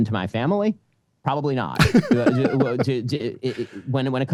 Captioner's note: laughing